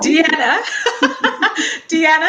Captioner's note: laughing